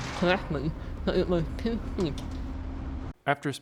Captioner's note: metal door bangs on the ground